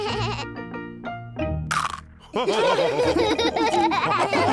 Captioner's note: bleats; loud crunch; all giggling